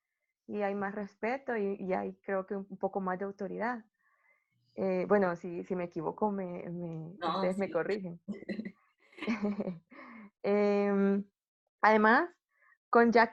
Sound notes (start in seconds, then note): 9.2 laughter